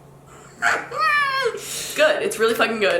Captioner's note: laughs